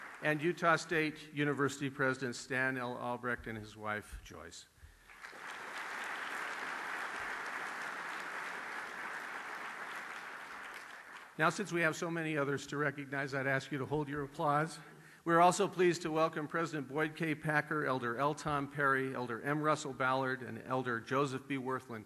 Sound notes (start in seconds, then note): 5.0 applause